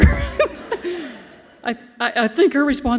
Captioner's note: laughs softly